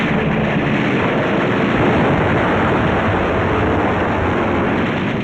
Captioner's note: gunfire and explosions